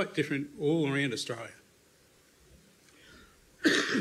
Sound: coughs

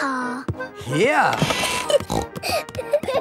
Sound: snorting; kids giggling

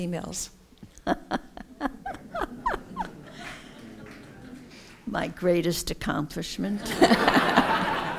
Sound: laughs

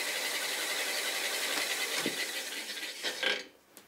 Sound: the machine shuts down

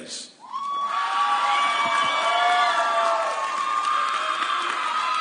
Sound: audience cheering

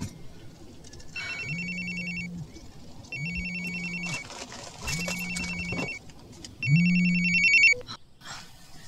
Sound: phone Ringing

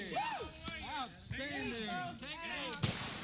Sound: sound of gunshots

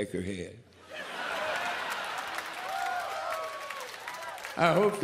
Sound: audience cheers

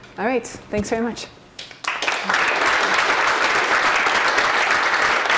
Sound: applause

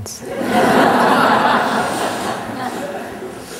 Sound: laughter

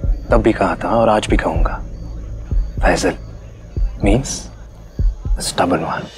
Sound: none

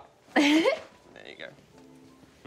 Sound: chuckles

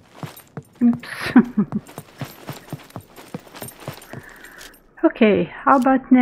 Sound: laughs

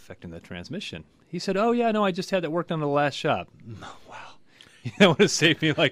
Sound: whispers; laughs

